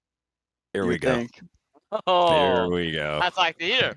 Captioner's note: laughs